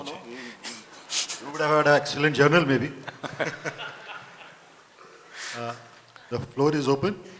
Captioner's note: laughter